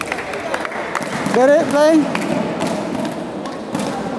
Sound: applause

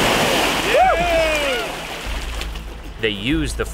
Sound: cheering

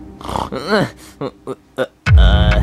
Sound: Yoshi snoring and groaning

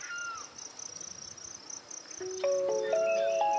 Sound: birds chirping

